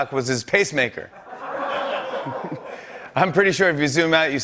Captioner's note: laughter